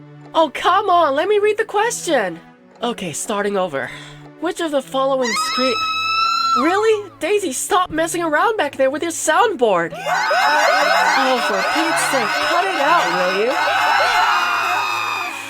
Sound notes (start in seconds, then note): 5.3 scream sound effect; 10.0 scream sound effect spam